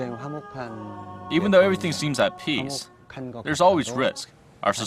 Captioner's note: korean